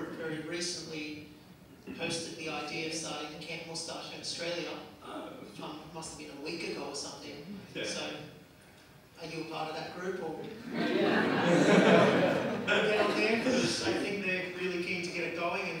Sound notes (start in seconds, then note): 10.5 audience laughs